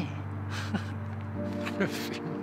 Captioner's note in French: rires